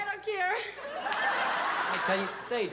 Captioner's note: laughter